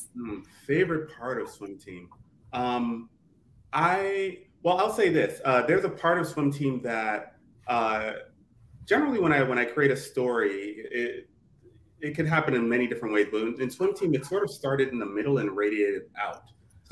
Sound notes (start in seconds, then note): none